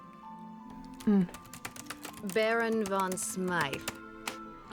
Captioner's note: typing resumes